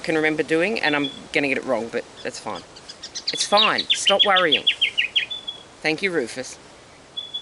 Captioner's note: bird chatter